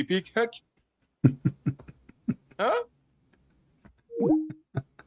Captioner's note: Ketawa